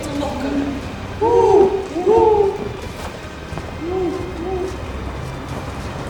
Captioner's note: owl sounds